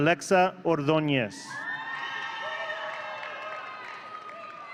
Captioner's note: audience cheering